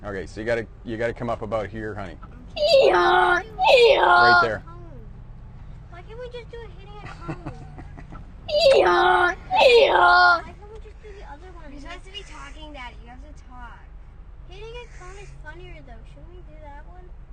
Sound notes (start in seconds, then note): 2.4 kid braying; 7.0 laughs; 8.5 kid braying